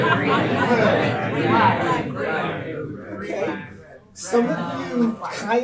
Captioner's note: group talking